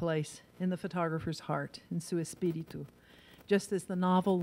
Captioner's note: in foreign language